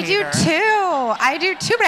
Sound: laughs

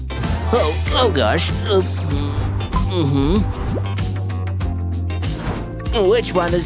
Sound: taking a sip

